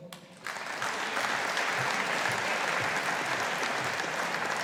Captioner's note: audience applauding